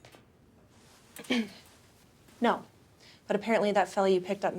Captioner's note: clears throat